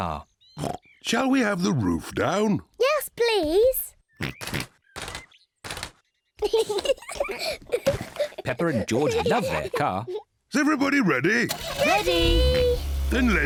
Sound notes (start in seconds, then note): 0.6 oinks; 4.3 oinks; 6.4 both laugh; 11.4 engine starts